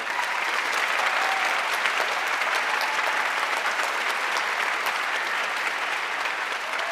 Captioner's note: audience applauding and cheering